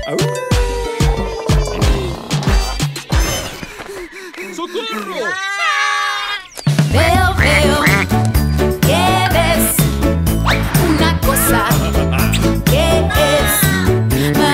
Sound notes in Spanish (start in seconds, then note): 0.2 Sonido de aullido; 4.1 Sonido de agitacion; 7.0 Sonido de patos